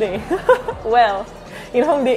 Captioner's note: laughs more in French